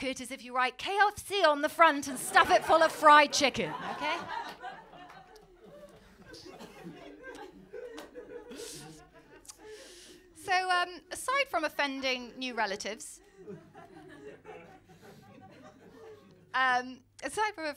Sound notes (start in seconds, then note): 4.6 laughter